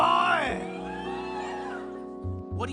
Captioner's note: audience cheering lol